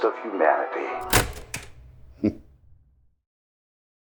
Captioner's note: snickering